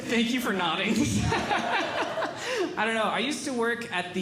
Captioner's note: laughing